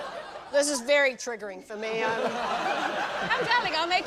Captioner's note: laughter; laughter